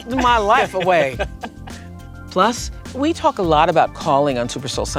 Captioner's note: laughter